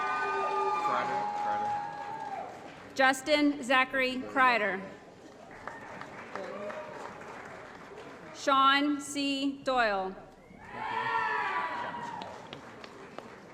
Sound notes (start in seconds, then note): 0.0 applause & Cheering; 5.3 applause; 10.6 applause & Cheering